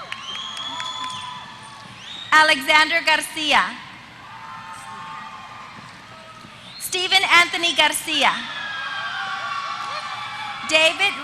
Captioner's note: applause